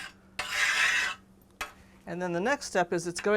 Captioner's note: scraping noise